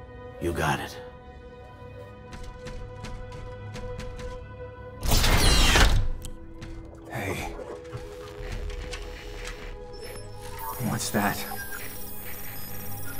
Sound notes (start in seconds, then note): 7.4 static; 7.4 monitor trills